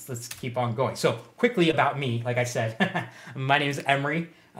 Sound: laughs

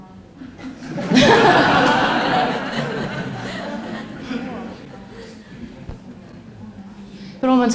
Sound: questioner/Audience Laughter

